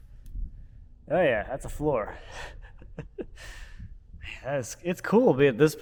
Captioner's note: laughs